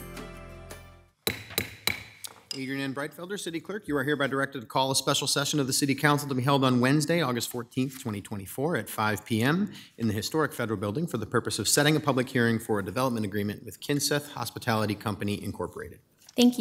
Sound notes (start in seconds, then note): 1.2 gavel bangs